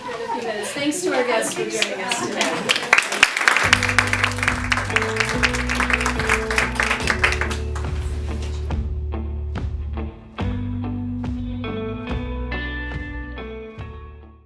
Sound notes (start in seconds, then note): 1.5 clapping; 6.0 soft rock music